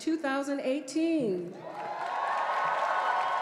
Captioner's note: cheering